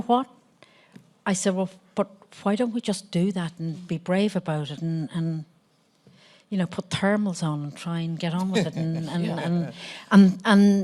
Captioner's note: Ethan laughs